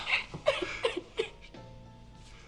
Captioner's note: crying